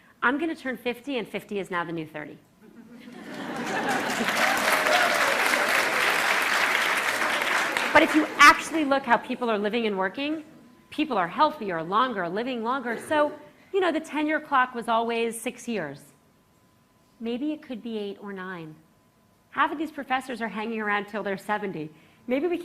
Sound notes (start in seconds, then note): 2.6 laughter; 4.7 applause